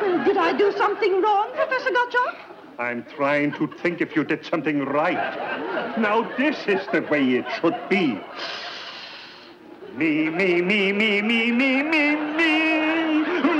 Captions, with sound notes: - Did I do something wrong, Professor Gottschalk? - I'm trying to think if you did something right. Now, this is the way it should be. (inhales deeply) (Professor singing scales)